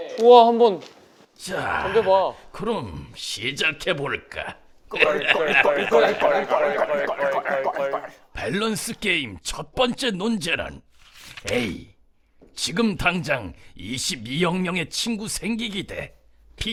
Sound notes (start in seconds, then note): 4.9 laughing